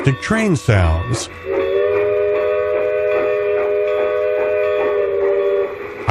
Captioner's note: sound of a steam train whistle